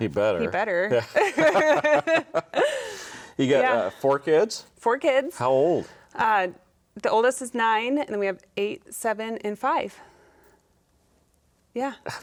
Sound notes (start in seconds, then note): 1.0 both laughing